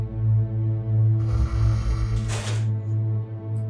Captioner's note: low growl